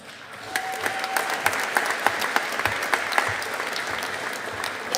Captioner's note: audience applauding